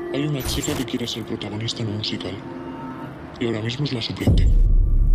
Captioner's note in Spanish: voz distorsionada